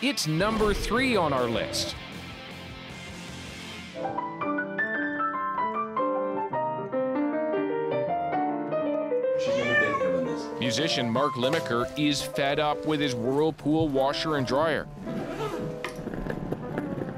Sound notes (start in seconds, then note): 9.4 meows